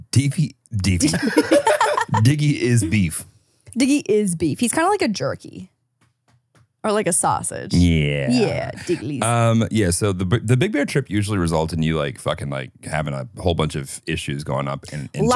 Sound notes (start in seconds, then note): 0.8 group laughing